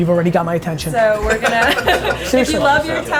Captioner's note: man laughs